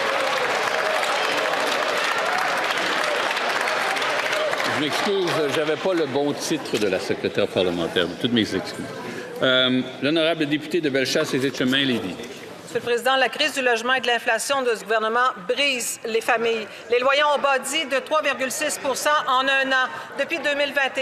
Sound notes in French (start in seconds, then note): 4.9 applaudissements